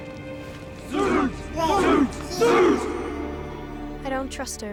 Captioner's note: chanting